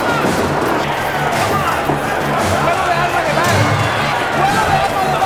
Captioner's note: shouting in Spanish